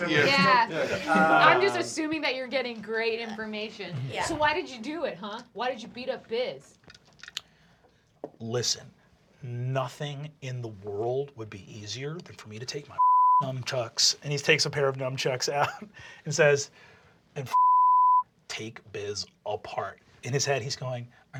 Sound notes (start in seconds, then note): 0.0 laughter; 8.6 deep voice; 14.4 normal voice; 16.9 deep voice; 20.3 normal voice